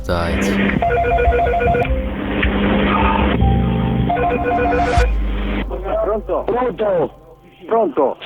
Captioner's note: phone ringing